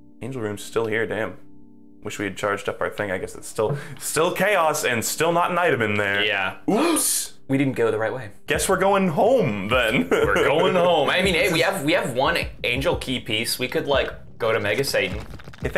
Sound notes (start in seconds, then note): 7.2 gasp; 9.8 laughs